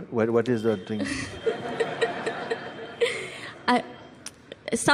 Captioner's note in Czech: tazatelka se směje